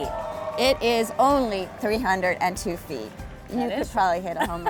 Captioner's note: crowd cheers